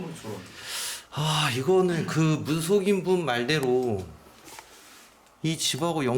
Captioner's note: sigh